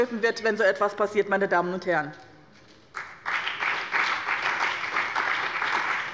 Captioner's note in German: Beifall bei dem BÜNDNIS 90/DIE GRÜNEN und der CDU